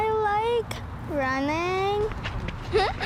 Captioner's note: giggles